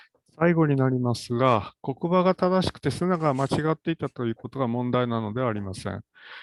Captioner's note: speaks in Japanese